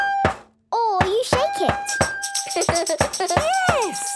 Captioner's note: recorder note plays; rattling